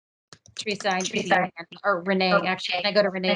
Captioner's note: audio distorts